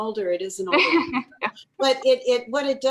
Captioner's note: laughs